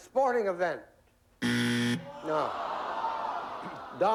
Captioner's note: buzzer